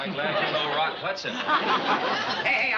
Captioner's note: chuckles